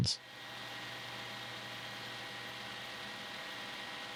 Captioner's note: machine whirring